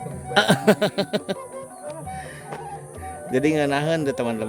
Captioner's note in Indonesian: tertawa